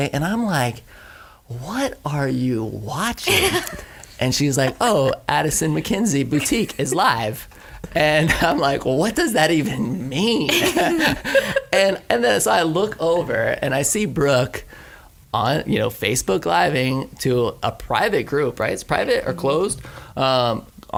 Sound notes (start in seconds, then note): 10.4 laughter